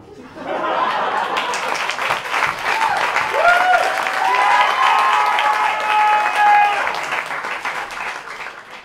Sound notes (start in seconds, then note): 0.1 laughter; 0.8 applause